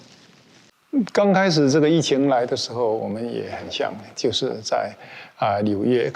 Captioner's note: speaking in foreign language